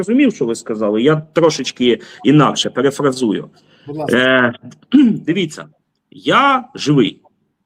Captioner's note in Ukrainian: прочищення горла; прочищення горла